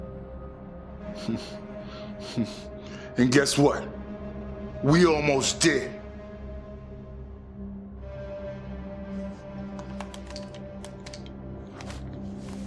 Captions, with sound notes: [ chuckles ] And guess what? We almost did. [ dramatic music ]